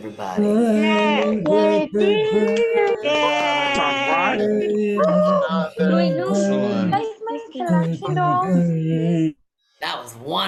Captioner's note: cheering